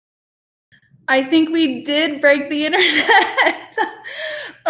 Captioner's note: chuckles